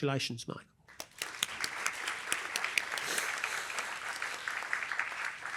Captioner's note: applause